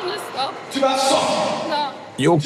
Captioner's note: foreign language